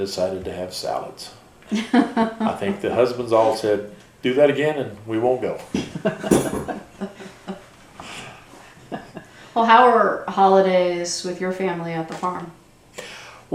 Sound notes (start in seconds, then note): 1.5 laughter